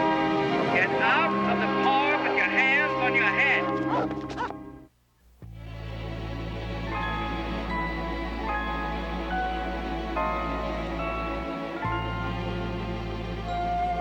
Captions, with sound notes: Get out of the car with your hands on your head. [dogs barking] [theme music]